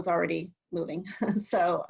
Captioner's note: laughter